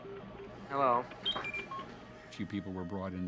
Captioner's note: beep beep blip